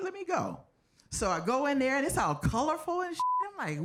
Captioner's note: beep